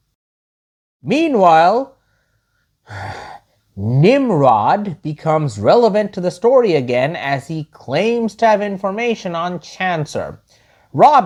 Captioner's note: sigh